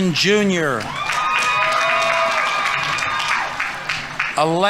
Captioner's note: audience members cheering; audience applauding